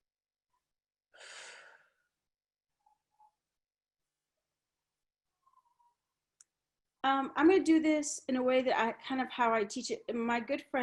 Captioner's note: exhales deeply